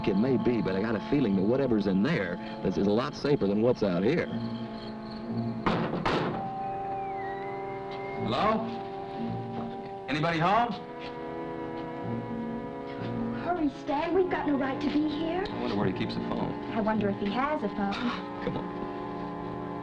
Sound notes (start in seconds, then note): 5.6 knocking